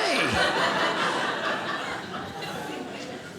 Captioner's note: audience laughing